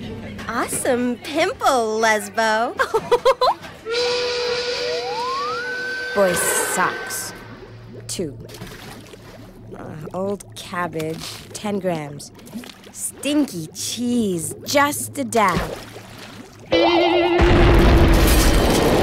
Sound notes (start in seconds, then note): 2.8 Cindy giggles; 3.9 train siren wailing; 17.3 explosion